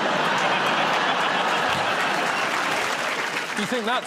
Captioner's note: laughter